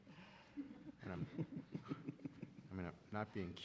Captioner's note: audience laughing